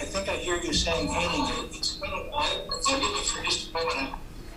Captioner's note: audio repeating back